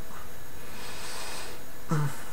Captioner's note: exhales